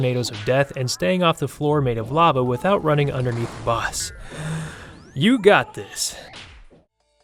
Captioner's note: gasp